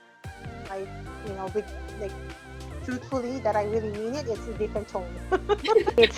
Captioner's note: laughs